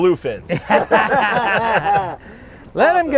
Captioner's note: laughing